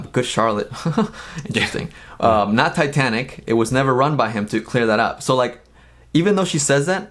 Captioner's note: laughs